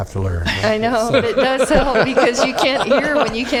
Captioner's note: laughter